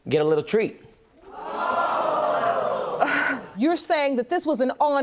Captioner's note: audience groans